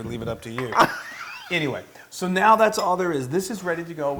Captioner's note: laugh